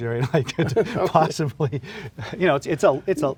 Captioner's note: laughing